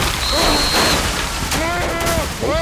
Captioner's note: groaning